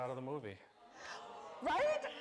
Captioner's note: audience gasping